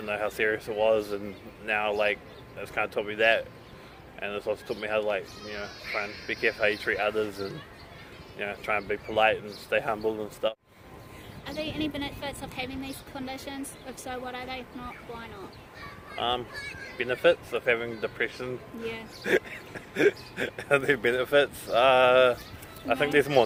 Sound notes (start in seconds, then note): 19.1 laughing